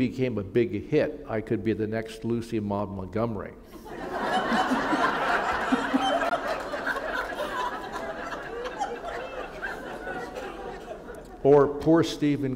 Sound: laughter

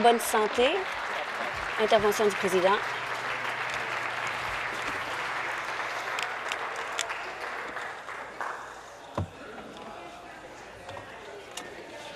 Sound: some Applause

